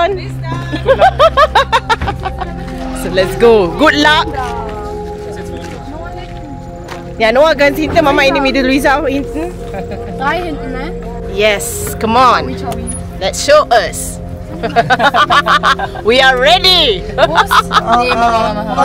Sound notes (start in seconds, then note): 0.6 laugh; 10.4 speaking German; 14.5 laugh; 17.8 laugh